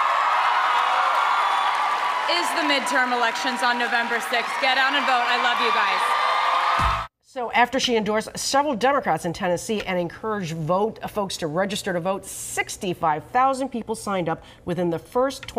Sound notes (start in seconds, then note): 4.2 cheering